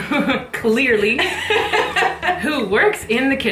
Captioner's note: both laughing